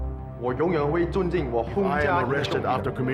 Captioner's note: people speaking Chinese